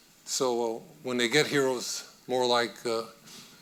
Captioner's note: none